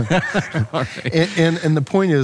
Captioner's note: laughing